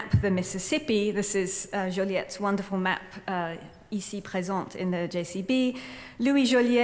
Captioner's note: french